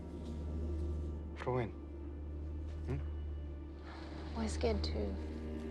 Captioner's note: Sinclair speaking in foreign language; Teplov speaking in foreign language